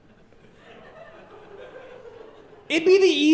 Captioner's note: audience laughing